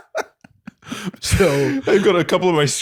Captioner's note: laughter